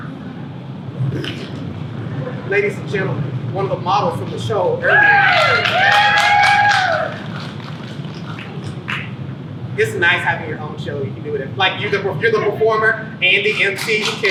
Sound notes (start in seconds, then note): 4.8 people cheer